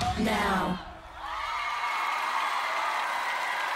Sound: screams and Applauses

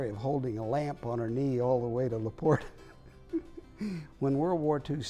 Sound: laughing

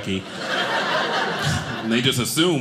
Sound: audience laughing

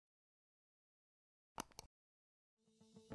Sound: click

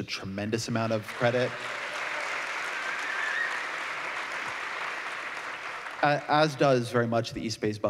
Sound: applause

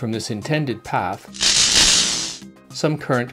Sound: electricity crackling

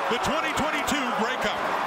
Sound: cheers and Applause

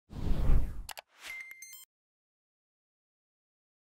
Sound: phone ringing

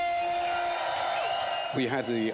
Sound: cheering

